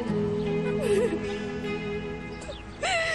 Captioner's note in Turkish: ağlıyor